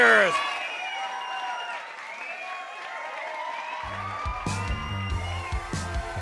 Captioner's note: crowd cheering